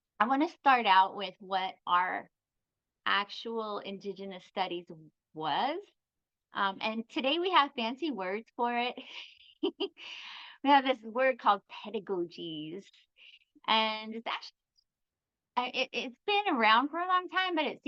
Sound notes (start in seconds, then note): 9.0 chuckles